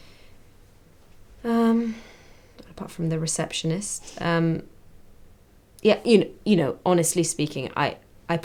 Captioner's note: sigh